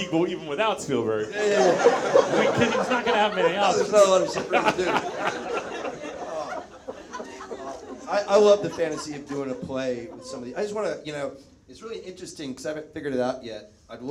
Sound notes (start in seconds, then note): 5.5 Zach laughs; 5.5 audience members laugh